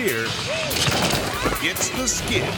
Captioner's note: people screaming